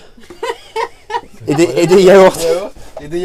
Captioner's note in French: rires